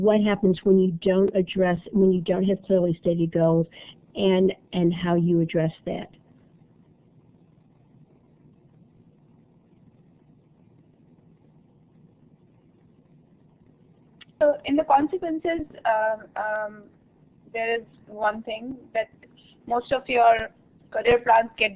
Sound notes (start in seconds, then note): 6.0 silence